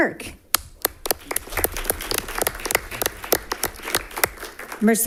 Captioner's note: all applauding